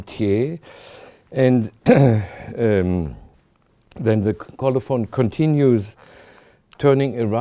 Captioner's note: clears throat